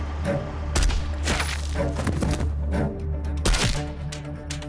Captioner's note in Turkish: Silah Sesi